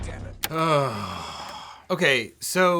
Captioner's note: sighs